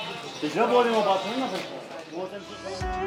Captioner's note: kashmiri Language